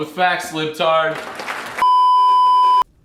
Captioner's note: applause